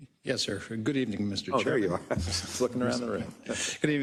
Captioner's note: laugh